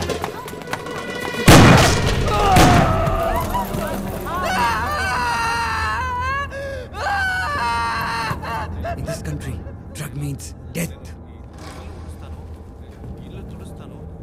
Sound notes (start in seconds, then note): 1.4 Gunshot; 4.5 Screams